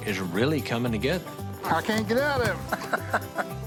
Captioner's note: laughs